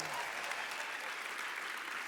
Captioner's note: applause